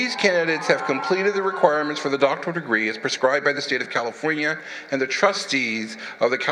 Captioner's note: applause